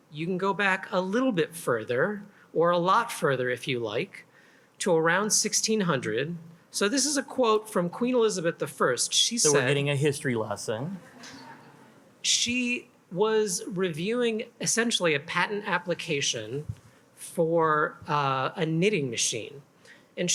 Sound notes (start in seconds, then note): 11.0 attendees chuckle